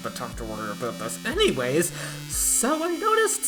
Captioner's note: deep inhale